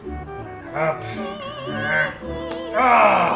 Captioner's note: growls